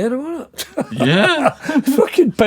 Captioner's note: laughing